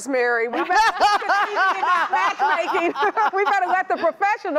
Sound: laughing

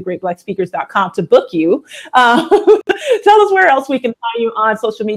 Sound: laughs

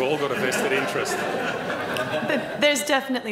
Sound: laughter

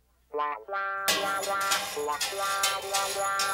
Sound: clattering

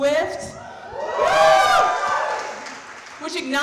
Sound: audience cheering

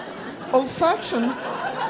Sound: laugh

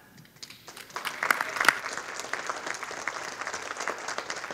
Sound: audience applauding

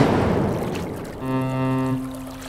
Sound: ferry horn blows

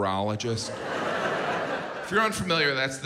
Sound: audience laughs

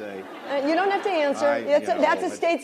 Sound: laughter

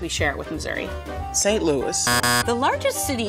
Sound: buzzer buzzing

